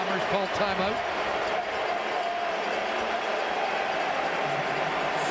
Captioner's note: cheering and Applause